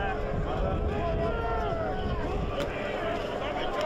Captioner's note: crowd yelling